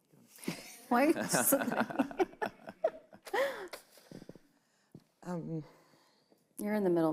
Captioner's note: both laughing